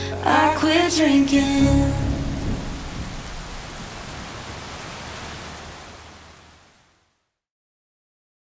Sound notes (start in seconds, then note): 3.0 rain pouring; 3.0 thunder rumbling